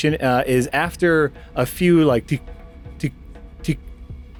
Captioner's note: tick, tick, tick